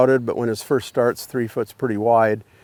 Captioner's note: none